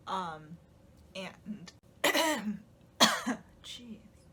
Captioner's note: coughs